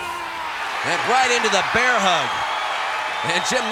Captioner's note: audience cheering